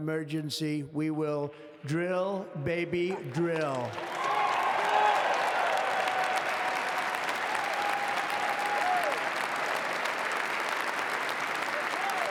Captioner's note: applause